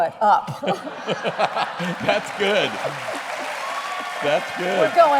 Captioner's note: laughter